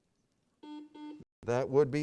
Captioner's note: beep